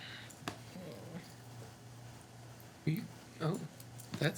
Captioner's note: grumbles